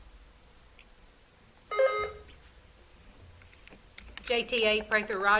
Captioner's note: buzzer beeps